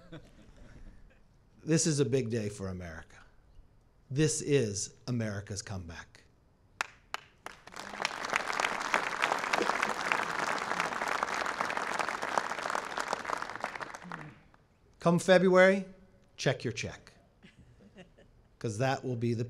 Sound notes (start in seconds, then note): 0.0 laughter; 6.8 applause